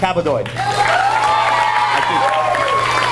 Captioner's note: audience cheers and applauds